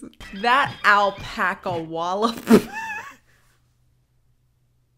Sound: laughing

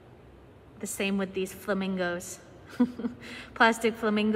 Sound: chuckles

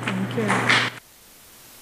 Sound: applause

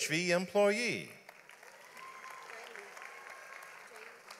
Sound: audience applauds

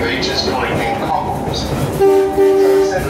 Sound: horn x2

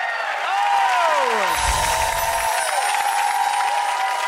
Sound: applause

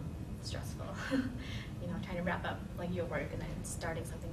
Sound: laughing

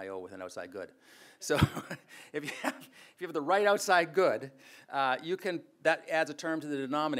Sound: laughs

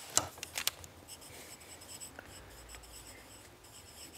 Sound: sound of pencil on paper

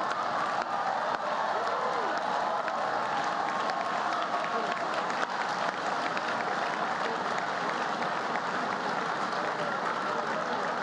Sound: laughter and applause

